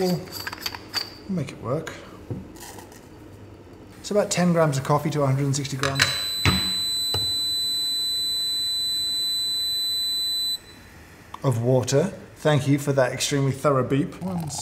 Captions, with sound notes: but we'll we'll make it work. It's about 10 grams of coffee to 160 grams (beep) of water. Thank you for that, extremely thorough beep.